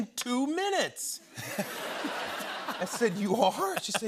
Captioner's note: laughter